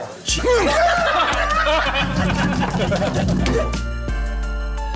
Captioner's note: laughter